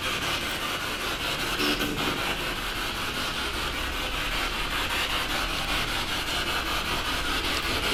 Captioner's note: radio noise from the spirit box